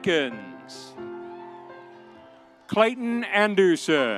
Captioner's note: audience cheering